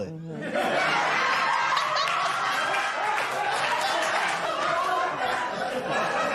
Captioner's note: laughter